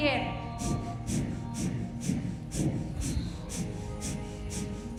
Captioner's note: all hard breathing